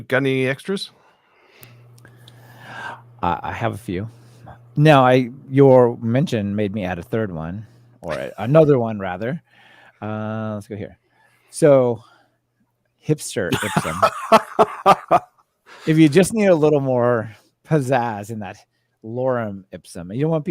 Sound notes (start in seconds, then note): 13.5 laughter